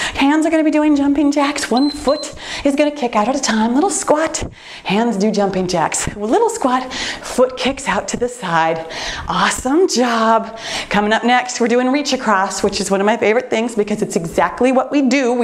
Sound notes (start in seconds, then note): 1.6 timer beeps